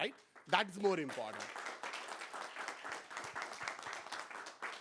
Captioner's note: applause